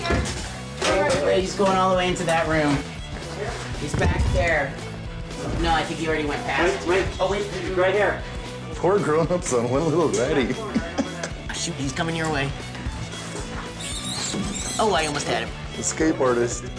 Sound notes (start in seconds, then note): 12.4 squealing